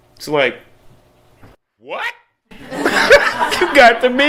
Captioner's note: laughter